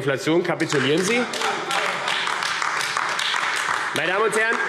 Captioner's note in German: Heiterkeit und Beifall AfD